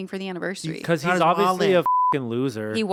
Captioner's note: beep